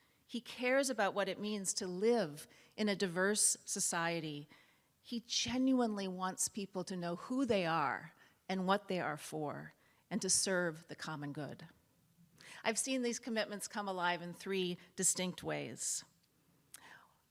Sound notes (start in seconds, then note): none